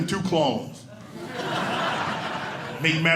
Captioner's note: audience laughing